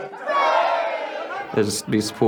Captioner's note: crowd cheering